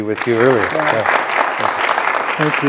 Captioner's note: audience applauds